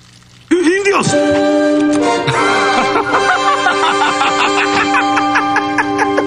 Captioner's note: laughing